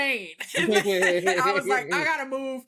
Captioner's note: laughing